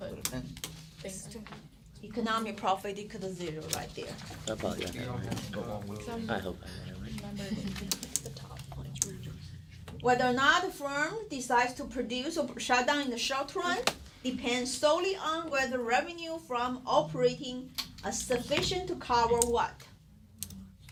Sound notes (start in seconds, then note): 4.8 students murmur